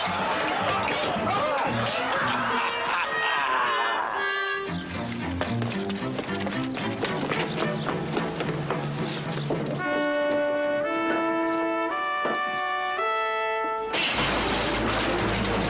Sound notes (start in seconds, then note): 1.6 Walter laughing; 5.6 dramatic orchestral music